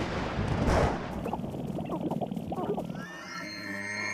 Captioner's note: clicking, thunder crashing; clucking; braying